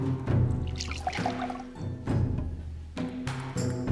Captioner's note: water sloshes